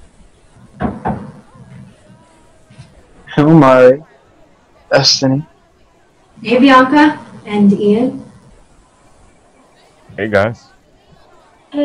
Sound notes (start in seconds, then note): none